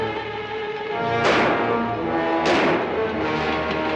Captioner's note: gunshots